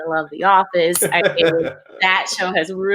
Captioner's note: laughs